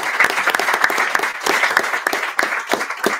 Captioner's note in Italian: Applauso